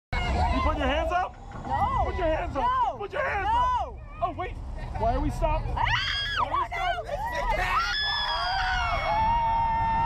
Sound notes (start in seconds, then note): 5.8 screaming; 7.5 continuous screaming